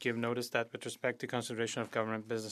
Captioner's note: speaking French